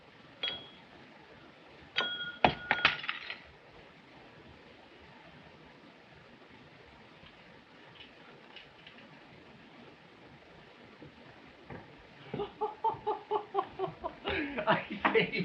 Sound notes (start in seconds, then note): 2.3 glass breaks; 12.2 laughing